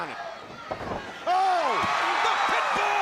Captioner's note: crowd cheering